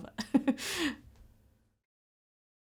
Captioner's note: laughter